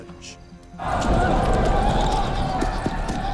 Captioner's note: deep rumble